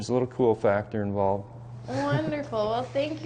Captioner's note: laughs